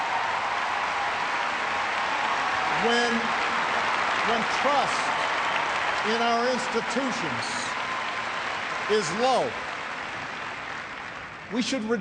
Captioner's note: cheers and applause